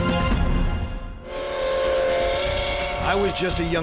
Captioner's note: train whistle